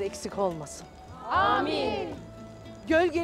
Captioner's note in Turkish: Hep bir ağızdan